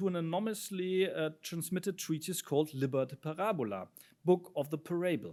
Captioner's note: speaks in foreign language